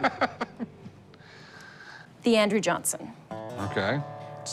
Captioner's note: laughs